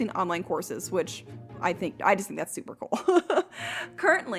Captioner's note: laughing